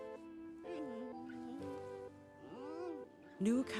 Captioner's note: Hou cooing; panda groans softly